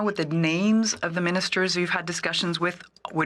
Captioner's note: speaking French